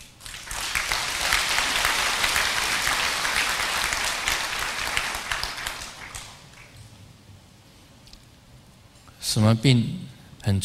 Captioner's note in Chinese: 眾鼓掌